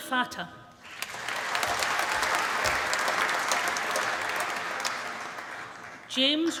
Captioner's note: applause